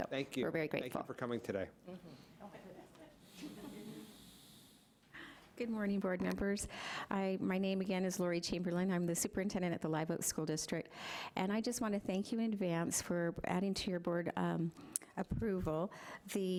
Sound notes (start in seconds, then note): 2.5 laughing